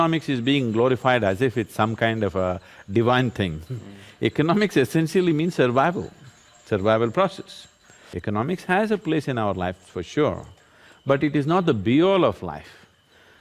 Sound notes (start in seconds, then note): 3.7 laughs